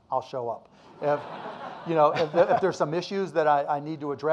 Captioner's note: audience laughing